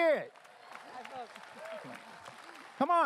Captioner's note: applause